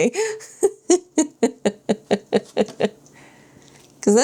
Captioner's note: laughs